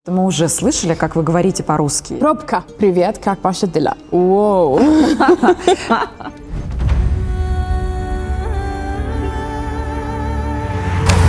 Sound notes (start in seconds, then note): 3.6 in russian